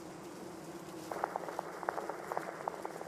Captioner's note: amplified beating sound